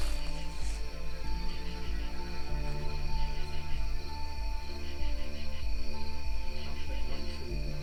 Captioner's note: crickets chirping